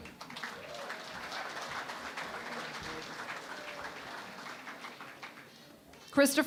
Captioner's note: applause